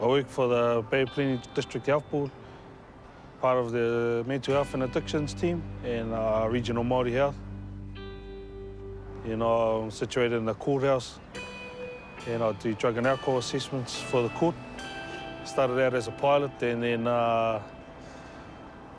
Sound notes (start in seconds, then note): none